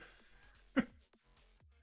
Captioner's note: laughs